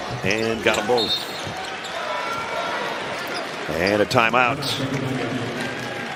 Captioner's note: whistle